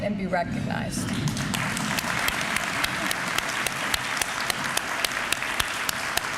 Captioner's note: applause